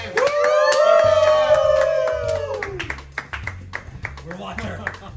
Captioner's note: team clapping and cheering